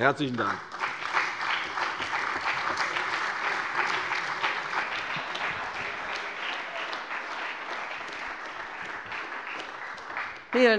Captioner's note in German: Beifall bei der CDU und dem BÜNDNIS 90/DIE GRÜNEN